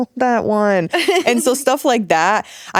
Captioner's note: giggling